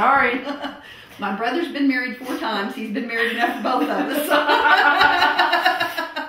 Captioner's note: laughter